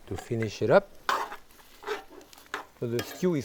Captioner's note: spoon scraping